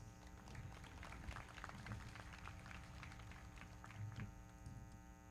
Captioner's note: everybody clapping